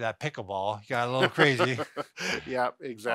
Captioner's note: laughs